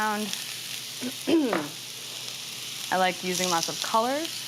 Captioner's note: clears throat